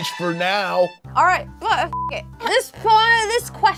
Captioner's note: beep